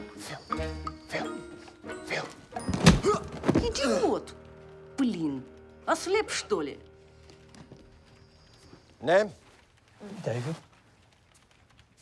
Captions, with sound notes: No. Phil. Phil. Phil! (grunts) (Svetlana speaks in Russian) - Name? - David.